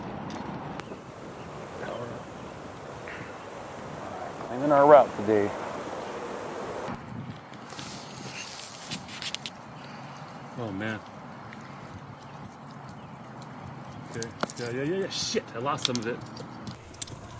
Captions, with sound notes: Give it some power Cleaning our route today. [Hammer grinding] Oh, man. Okay. Yeah, yeah, yeah, yeah. Shoot, I lost some of it.